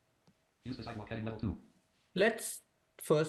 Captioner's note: rapid reading